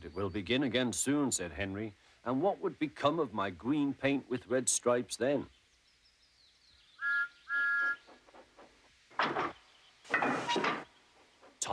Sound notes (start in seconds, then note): 7.0 toots